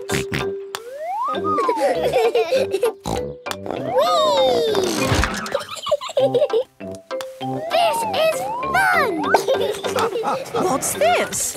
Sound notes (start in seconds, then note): 0.0 laughing; 1.7 snort, laughing; 2.7 snort; 8.7 laughing